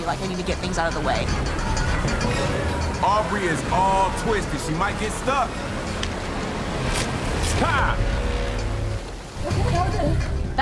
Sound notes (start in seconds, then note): 1.7 metal clanking; 1.7 water rushing; 6.8 flags ripping; 8.8 dramatic music